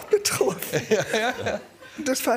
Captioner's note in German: Lachen